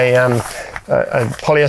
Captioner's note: fabric rustling